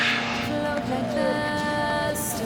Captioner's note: dog whining